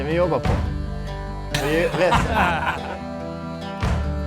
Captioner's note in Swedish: Skratt